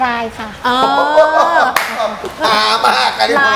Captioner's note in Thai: หัวเราะ